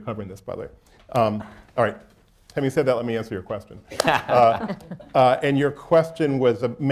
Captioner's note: laughter